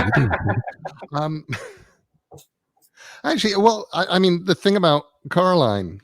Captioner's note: laugh